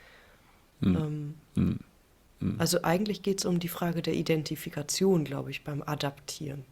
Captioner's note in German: räuspern